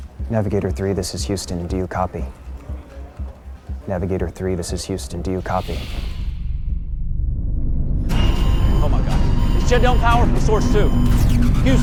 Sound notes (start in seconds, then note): 5.4 spacecraft whooshing